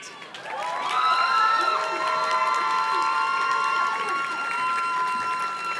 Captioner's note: audience cheers and claps